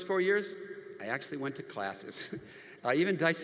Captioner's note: laughs